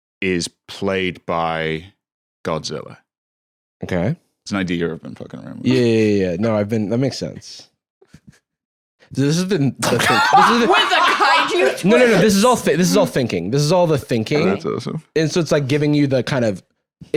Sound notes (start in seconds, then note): 9.8 laughs